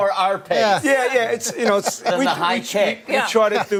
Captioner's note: laughter